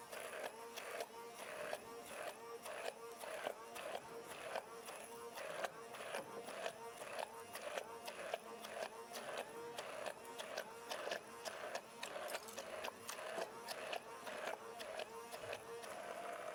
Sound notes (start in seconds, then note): none